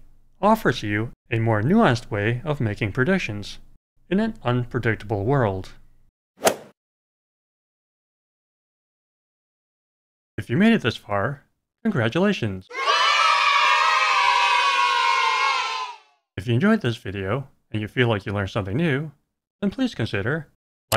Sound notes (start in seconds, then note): 6.4 swoosh; 12.7 children cheering